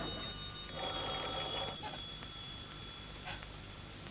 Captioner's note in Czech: zvoní telefon